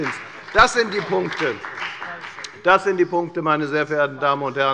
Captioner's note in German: Beifall bei der FDP und bei Abgeordneten der SPD